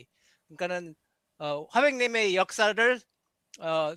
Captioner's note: non-english speech